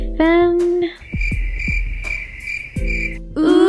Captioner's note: crickets